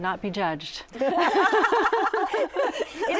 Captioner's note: laughter